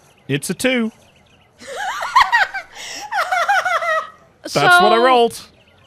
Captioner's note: loses it